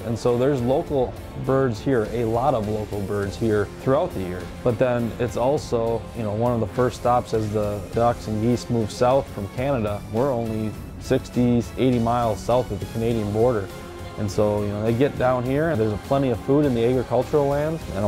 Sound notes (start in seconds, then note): none